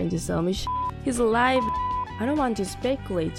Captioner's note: beep